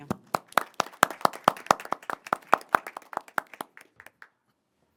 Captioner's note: board Members applauding